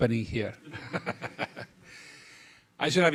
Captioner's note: laughing